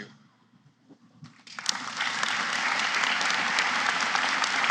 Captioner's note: applause